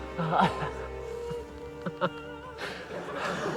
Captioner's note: laughs